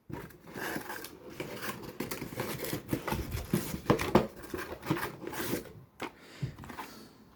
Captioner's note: cardboard noises